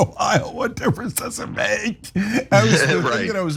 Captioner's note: laugh